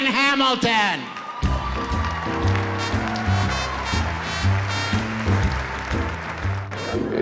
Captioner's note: applause/Cheers